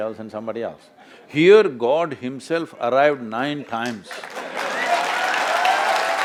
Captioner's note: laughter/Applause